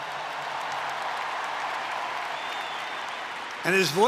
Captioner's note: applause